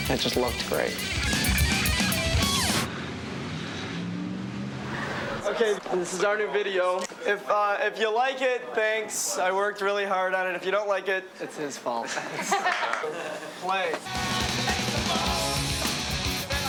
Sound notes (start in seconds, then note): 0.0 intense rock music; 2.2 vehicle engines roaring; 14.1 intense rock music